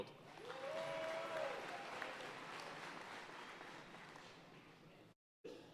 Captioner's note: audience cheering and applauding